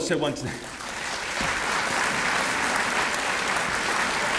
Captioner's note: applause